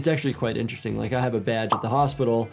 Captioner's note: graphics popping